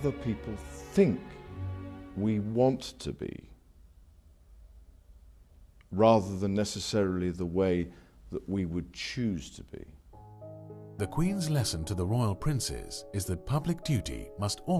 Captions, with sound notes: think we want to be, rather than, necessarily, the way that we would choose to be. - [Voiceover] The queen's lesson to the royal princes is that public duty must always